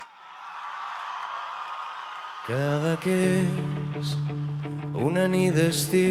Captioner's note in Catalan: Aplaudiment